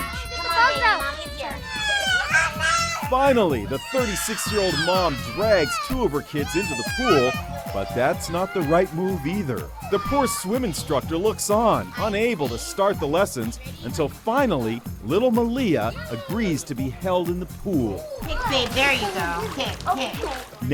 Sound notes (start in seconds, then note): 1.8 children screaming